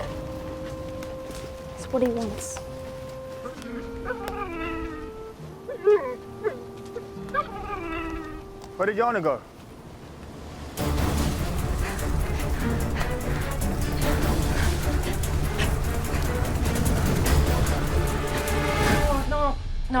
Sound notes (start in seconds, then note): 3.3 whimpers